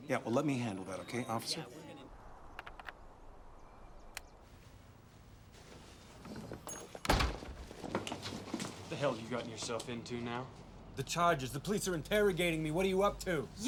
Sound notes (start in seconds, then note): 2.5 click; 5.2 bell dings, door closes